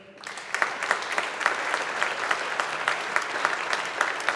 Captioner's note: audience applauding